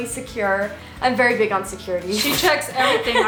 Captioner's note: laughs